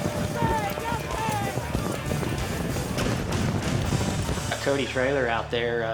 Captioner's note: hoofbeats